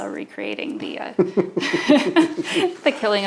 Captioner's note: both laughing